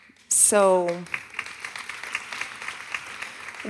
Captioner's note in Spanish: Aplausos